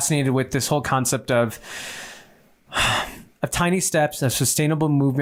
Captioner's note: sighing